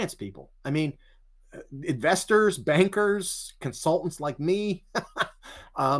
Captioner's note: chuckles